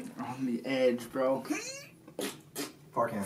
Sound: more grunting

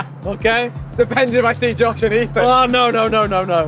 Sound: laughs

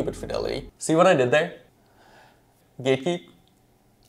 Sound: awkward silence

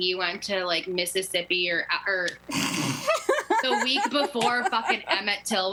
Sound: laughter

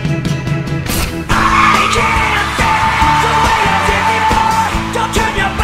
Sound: audience cheers

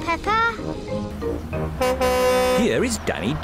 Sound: horn honks

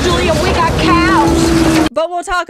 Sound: moo

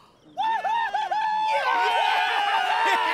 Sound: cheering

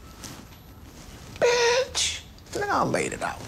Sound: whispers

